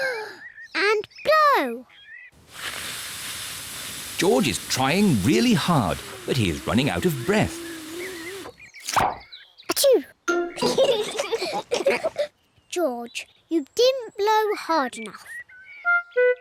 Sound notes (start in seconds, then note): 9.2 sneezes; 10.6 both giggle